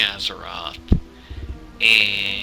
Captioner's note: microphone thud